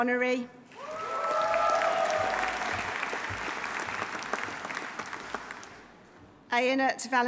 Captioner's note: audience cheering; audience applauding